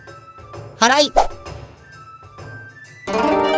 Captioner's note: sweeping